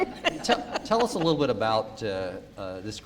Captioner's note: laughter